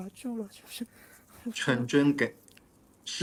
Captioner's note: him pronouncing his name in Cantonese again